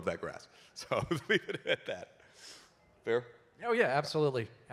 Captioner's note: laughter